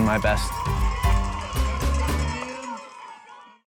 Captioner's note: cheering